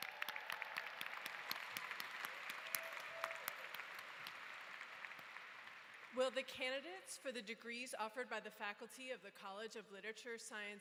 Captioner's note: applause